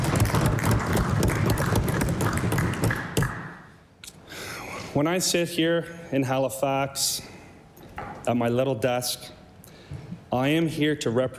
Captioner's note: applause